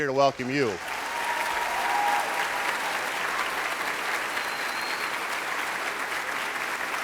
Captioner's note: applauding; cheering